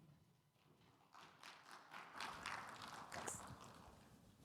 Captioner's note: audience clapping